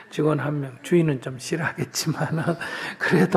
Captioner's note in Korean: 스님 웃음